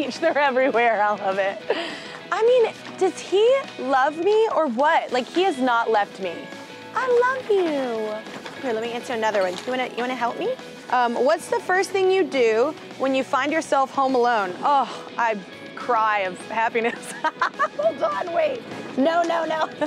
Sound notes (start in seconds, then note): 16.9 laughter